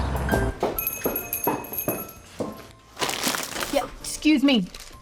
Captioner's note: footsteps; doorbell jingles